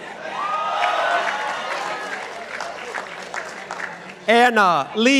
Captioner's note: participants applauding